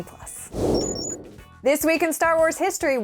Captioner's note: beeping